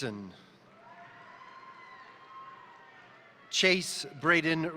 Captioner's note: crowd cheering; crowd applauding